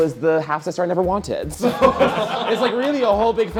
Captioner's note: everyone laughing